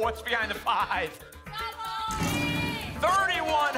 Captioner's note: cheering